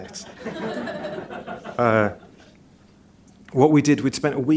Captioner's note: laughter